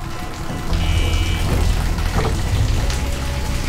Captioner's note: door thuds; alarm buzzing; outer door whirring